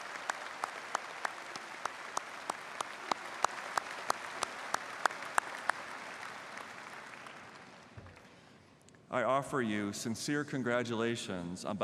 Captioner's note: applause